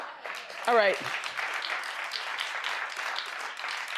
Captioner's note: audience applauds